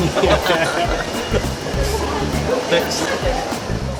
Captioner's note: laughing; upbeat music